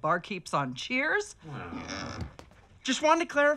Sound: all groan

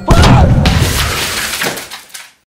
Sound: shattered

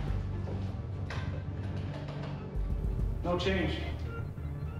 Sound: switches clacking

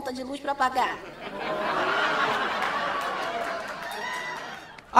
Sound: laughs

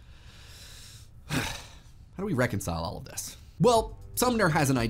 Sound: sighs deeply

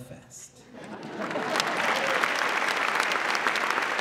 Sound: applause

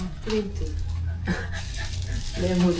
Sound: panting

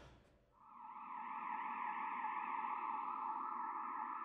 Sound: sirens

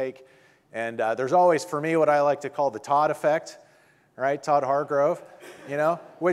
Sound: audience laughing

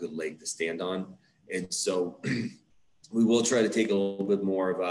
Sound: clears throat

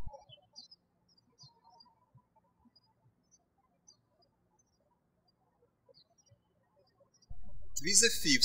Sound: birds chirping

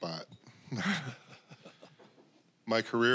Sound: chuckling

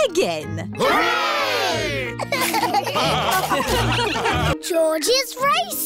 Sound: laughter

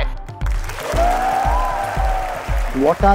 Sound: cheering

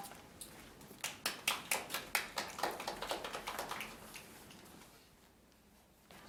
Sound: audience applauding lightly

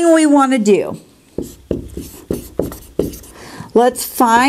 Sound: sound of writing

